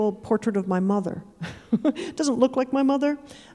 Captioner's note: chuckling